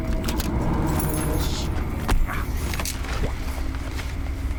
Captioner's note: keys jangling in mid-air